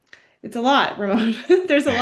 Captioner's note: laughs